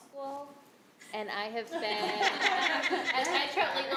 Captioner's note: others laughing